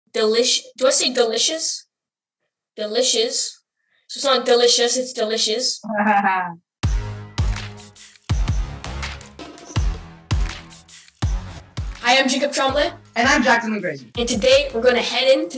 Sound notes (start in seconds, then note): 6.0 Jack laughs; 7.2 upbeat music